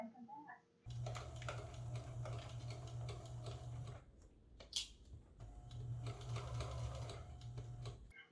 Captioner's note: sound of the sewing machine sewing